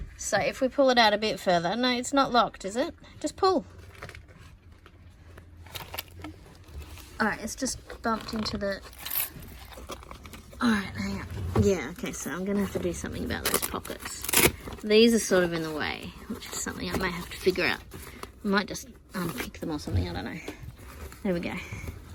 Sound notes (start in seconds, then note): 13.7 Velcro ripping sound